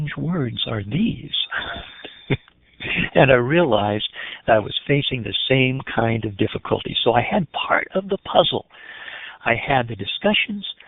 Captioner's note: laughing